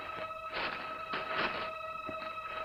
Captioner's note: papers rustling